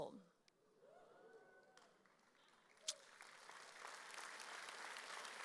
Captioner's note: audience cheers and applauds